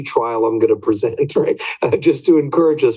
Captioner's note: laughs